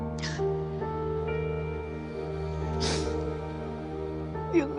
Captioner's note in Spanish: Sollozos